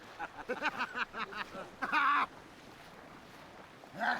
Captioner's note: man laughs; men laugh